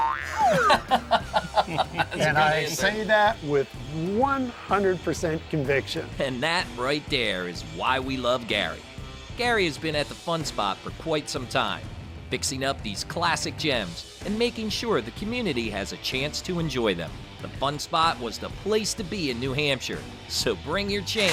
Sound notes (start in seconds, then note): 0.2 everybody laughs